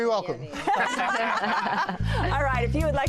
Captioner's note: laughter